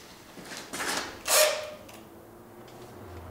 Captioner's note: rapid buzzing of the drill